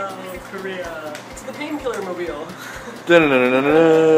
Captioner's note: laughs